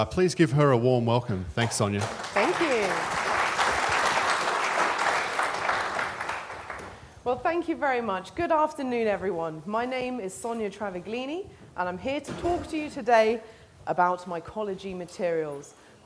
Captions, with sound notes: Please give her a warm welcome. Thanks, Sonia. Thank you. [applause] Well, thank you very much. Good afternoon, everyone. My name is Sonia Travaglini and I'm here to talk to you today about mycology materials.